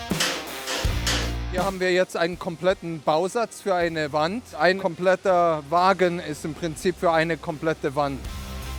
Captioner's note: German